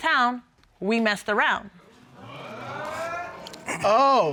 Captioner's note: audience exclaims